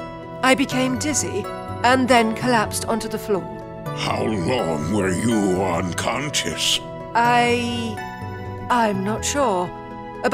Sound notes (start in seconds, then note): none